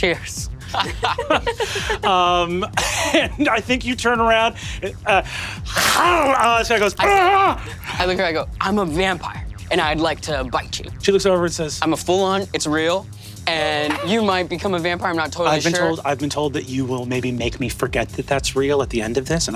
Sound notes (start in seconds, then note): 0.8 laughing; 5.7 Brennan chomps; 5.7 screams Britishly